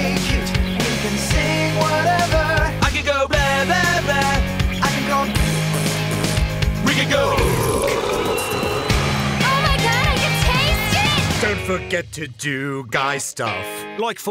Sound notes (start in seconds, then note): 6.9 giant burp